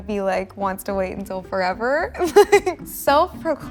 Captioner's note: laughing